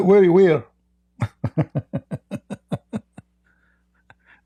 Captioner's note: Ketawa